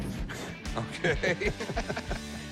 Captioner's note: laughter